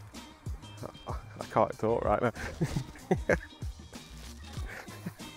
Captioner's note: laughs